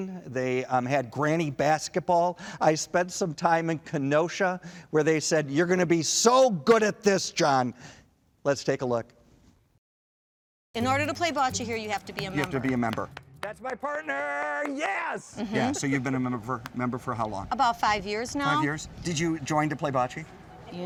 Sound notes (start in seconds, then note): 14.6 clapping